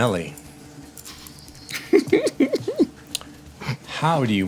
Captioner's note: laughing